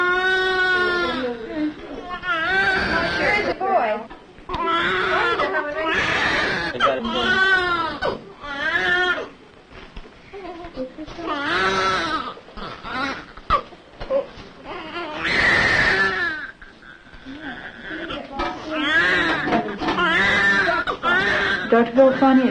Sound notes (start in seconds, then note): 0.0 baby cries; 4.5 baby crying and background talking